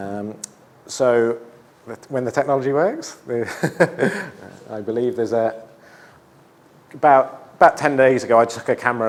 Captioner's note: laughs